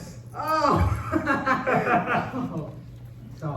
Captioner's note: they both laugh